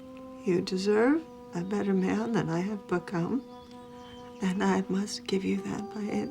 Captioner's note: voice breaking